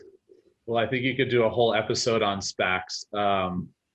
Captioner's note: chuckles